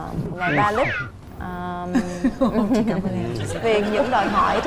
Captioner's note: laughing